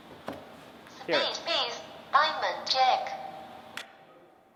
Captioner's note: Electronic voice: Spade Ace, Diamond Jack